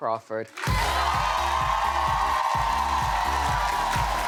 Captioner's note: audience cheering